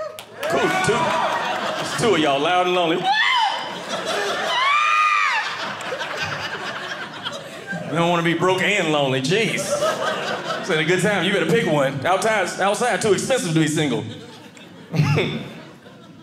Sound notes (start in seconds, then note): 2.9 cheering; 3.6 audience laughing